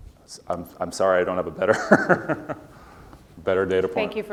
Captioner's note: laugh